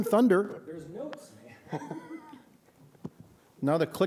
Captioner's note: laughter